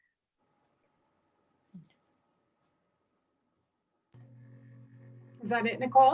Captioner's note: silence